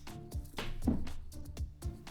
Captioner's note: thump